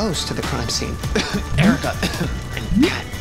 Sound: coughing

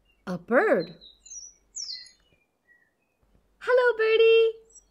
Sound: birds chirping

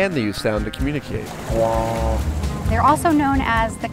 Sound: trumpeting noise

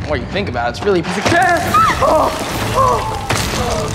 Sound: screaming

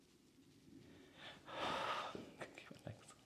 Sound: deep Breath

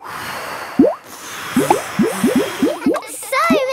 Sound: all blowing

